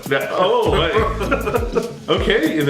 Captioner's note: both laugh